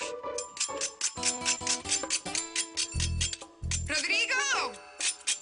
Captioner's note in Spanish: Ruido al raspar la tostada